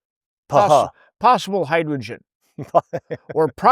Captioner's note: laughing; laughs